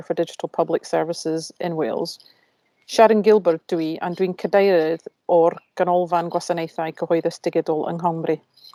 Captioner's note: in Welsh